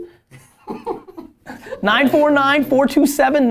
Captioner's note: laughter